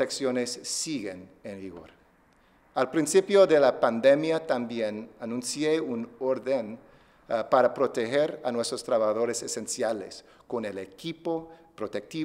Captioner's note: speaking spanish